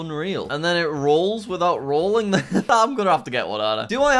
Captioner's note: chuckles